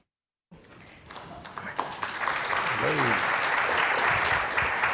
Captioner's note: audience clapping